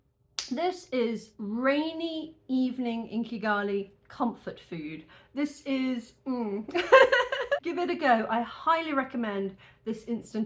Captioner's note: laughing